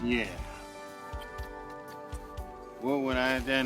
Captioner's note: lips smacking